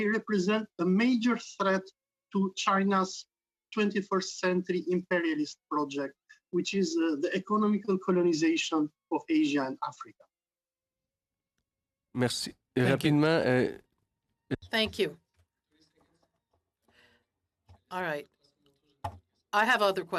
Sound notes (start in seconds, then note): 15.1 speaking French